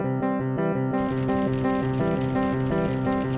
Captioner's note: raindrops pattering